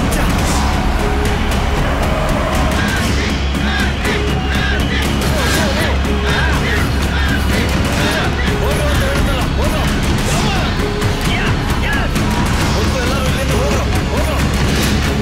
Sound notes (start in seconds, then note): 6.1 crowd Cheering